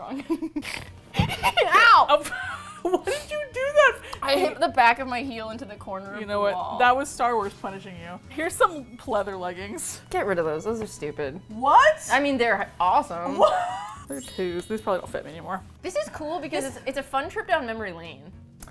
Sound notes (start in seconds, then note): 1.1 laughs; 11.0 in disbelief